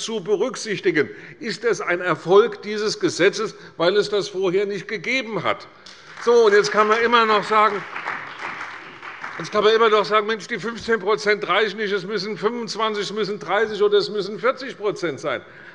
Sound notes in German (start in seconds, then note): 5.8 Beifall bei der CDU und dem BÜNDNIS 90/DIE GRÜNEN